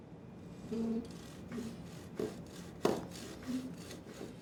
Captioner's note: saw scraping